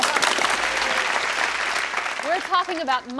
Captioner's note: audience claps